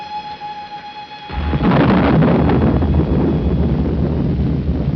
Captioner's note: thunderclap